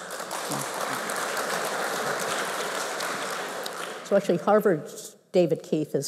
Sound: applause

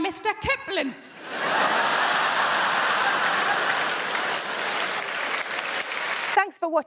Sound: crowd laughing; crowd clapping

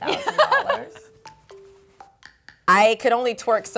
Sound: laughs

